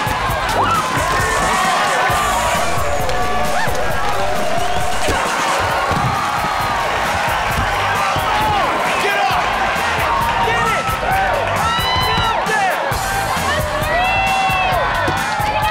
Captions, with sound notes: [cheering] [cheering] Get up! Get it! Get up there! Go Tori!